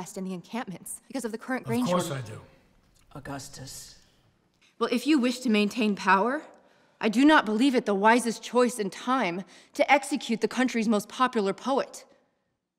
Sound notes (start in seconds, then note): none